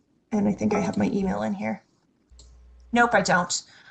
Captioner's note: notification chimes